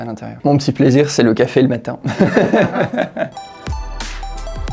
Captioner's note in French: rires